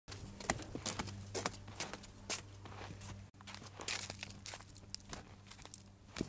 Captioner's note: sound of footsteps